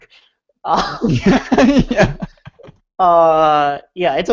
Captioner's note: laughing